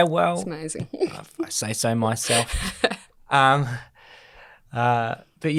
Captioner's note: laughs